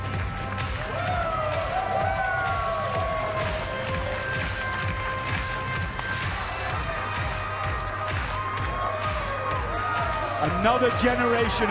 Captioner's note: cheers and applause